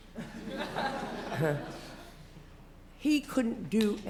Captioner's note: laughter